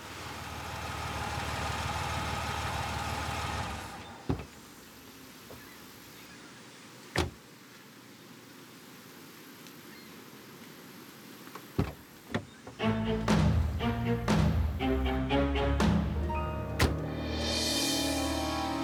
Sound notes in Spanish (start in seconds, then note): 3.2 Ruido del motor